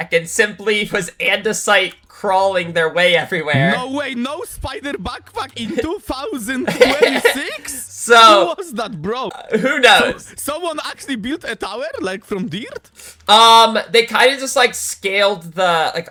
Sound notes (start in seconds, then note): 6.5 laughter